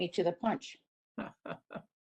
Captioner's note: laughter